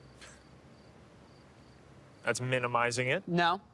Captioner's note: Alex scoffs